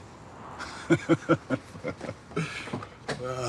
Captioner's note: he chuckles